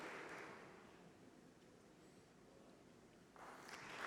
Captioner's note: applause